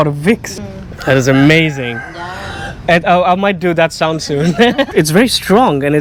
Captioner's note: cuckadoodledoo